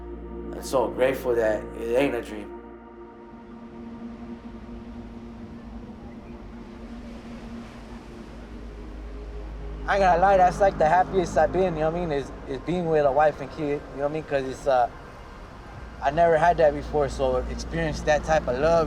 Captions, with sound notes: “I'm so grateful that it ain't a dream.” [OCEAN WAVES] [INDISTINCT CHATTER] I ain’t gonna lie, that's like, the happiest I've been, y’know what I mean, is being with a wife and kid, y’know what I mean, because-- I never had that before. So to experience, that type of love is